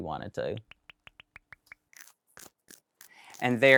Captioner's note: graphics popping